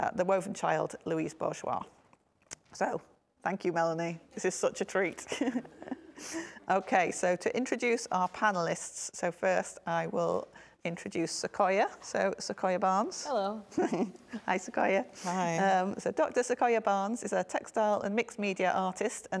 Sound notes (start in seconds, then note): 5.3 chuckles